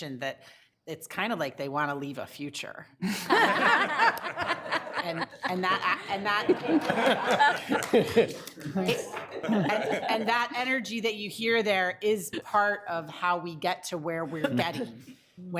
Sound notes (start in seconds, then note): 3.0 all laughing; 7.2 all laughing and clapping